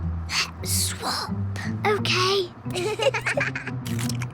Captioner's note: whispering; both giggle